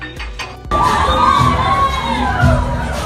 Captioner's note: cheering